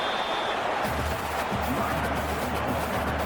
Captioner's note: crowd Noises